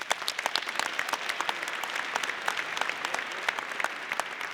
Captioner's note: audience applauding